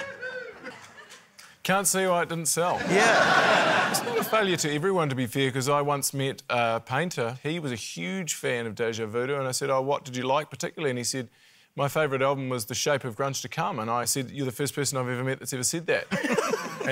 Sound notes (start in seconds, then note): 2.8 laughter